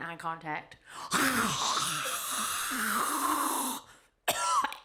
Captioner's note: imitates air whooshing; coughing